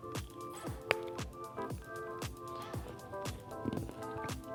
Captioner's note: chocolate crunches